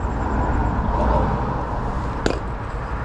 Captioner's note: fist bump